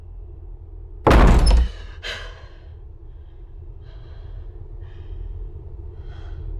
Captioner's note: door bangs; Kat gasps